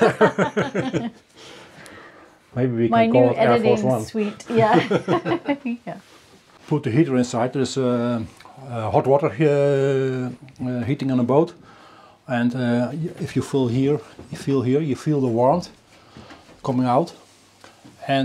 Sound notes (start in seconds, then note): 0.0 people laughing; 4.5 laughs